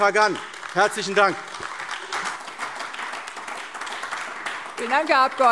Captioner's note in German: Anhaltender Beifall AfD